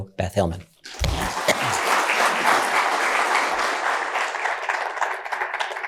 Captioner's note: cheers and applause